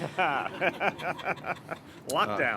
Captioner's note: laughter